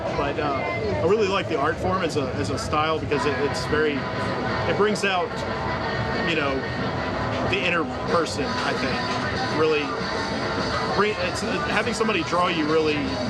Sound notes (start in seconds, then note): none